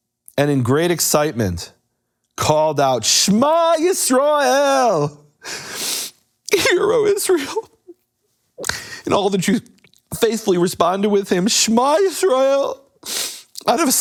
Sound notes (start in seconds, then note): 6.5 sobs